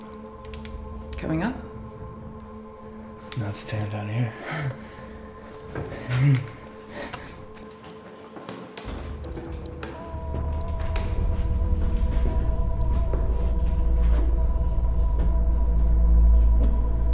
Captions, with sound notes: - Coming up? - I'm not staying down here. (footsteps shuffling)